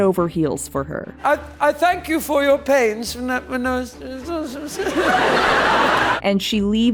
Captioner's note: audience laughter